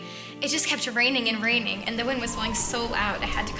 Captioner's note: wind blowing